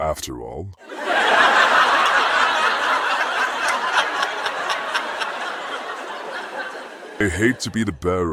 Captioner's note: audience laughing